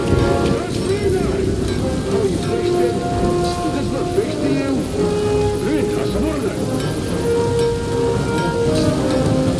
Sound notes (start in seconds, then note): 6.2 alien language